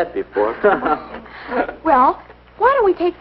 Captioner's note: laughing